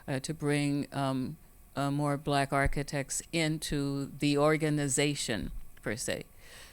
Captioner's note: none